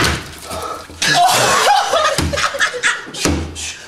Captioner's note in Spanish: risas muy fuertes